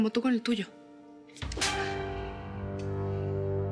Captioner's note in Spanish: bofetada